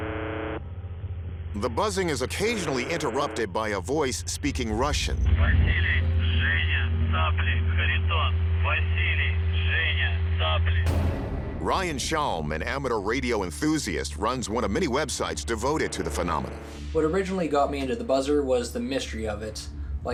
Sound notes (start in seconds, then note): 5.3 speaking russian